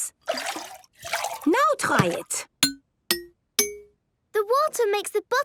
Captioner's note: pitched tinks